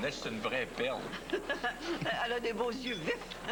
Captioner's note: Rire